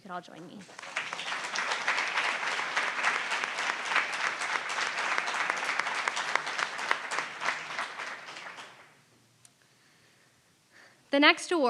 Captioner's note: applause